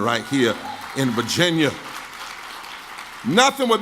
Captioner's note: clapping